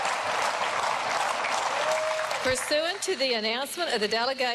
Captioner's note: cheering and applause